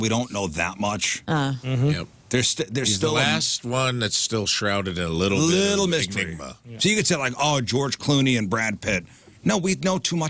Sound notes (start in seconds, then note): none